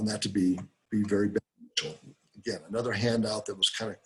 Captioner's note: break in audio